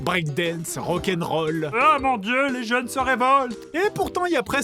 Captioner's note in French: Voix de papy